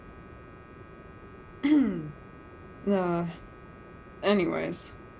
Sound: small cough

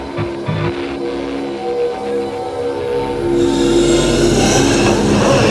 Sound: more static

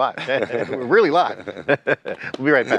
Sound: both chuckle

